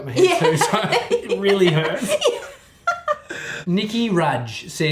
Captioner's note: laughing; both laughing